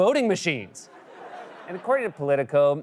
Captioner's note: laughter